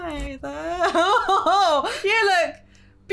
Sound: laughing

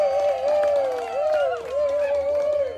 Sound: applause

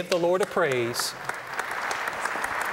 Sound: applause

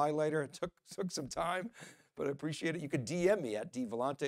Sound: laughing

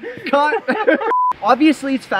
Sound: beeping

